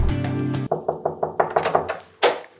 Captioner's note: knocking